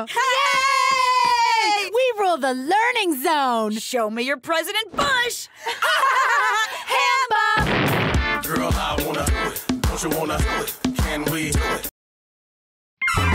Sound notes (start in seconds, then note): 5.6 both laughing; 7.6 explosion